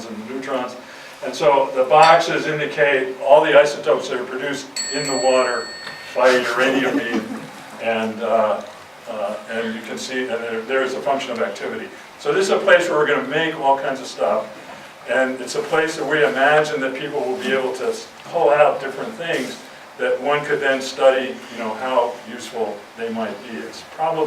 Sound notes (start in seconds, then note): 4.7 bell chime